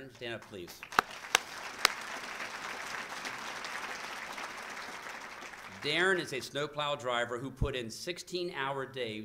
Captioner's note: applause